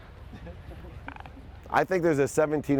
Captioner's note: man chuckles